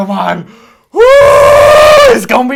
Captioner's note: horrible face noise